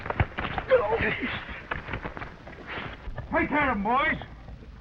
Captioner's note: men grunting